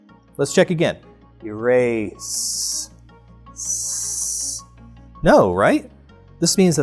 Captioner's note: "S" sound